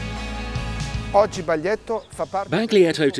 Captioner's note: speaking foreign language